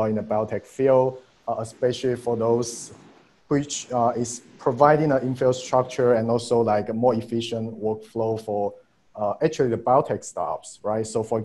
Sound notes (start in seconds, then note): none